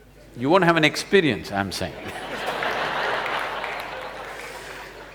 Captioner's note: laughter